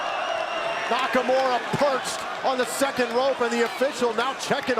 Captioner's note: crowd cheering